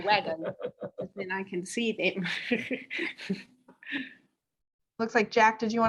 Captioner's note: chuckles